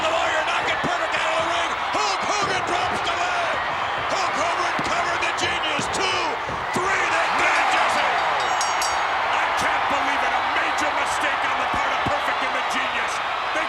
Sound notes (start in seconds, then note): 3.9 hand pounding; 7.2 bell ringing